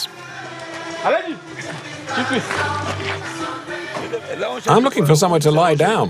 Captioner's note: foreign language